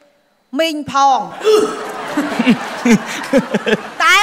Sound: laughter

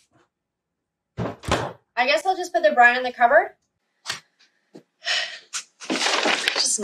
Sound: door closing

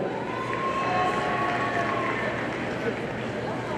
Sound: audience cheers

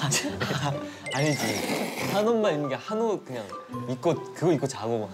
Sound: slurps the noodles

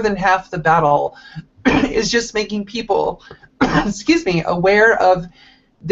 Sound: coughs

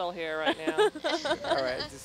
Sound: scientist chuckling

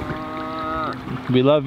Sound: cows mooing

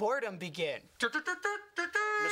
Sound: tooting mockingly

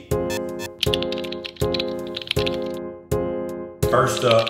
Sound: typing

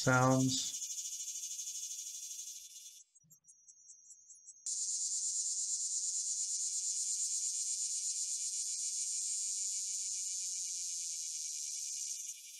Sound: chorus of insect-sounds grows

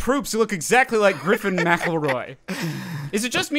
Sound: laughs

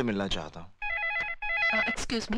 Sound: phone Ringing

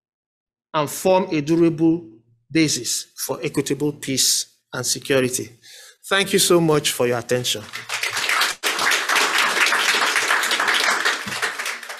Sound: clapping

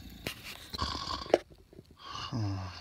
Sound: snoring

